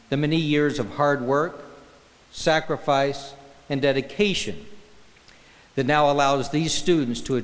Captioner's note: none